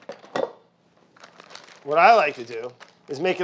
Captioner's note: paper rustling